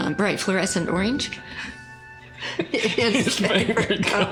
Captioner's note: laughter